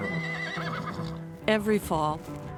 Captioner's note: horses neighing